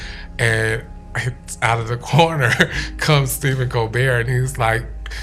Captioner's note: laughs